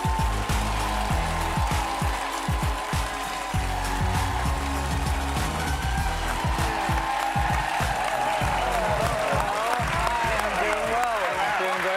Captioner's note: cheers and applause